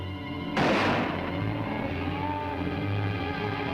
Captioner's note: gun fires